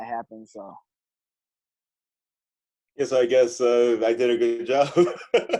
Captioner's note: laughter